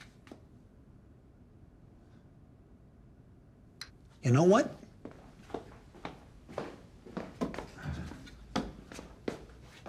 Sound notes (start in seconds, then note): 7.0 footsteps tapping